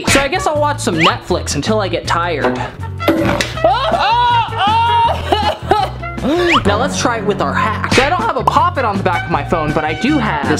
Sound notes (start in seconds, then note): 4.0 screaming in pain